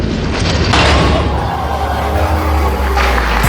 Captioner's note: crowd